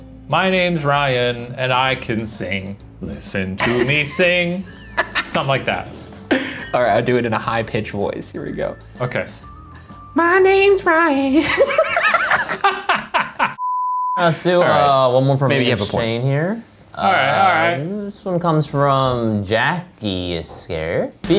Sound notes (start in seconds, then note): 4.6 laughing; 11.4 laughing; 13.6 beep